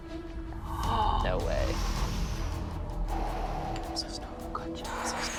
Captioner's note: gasps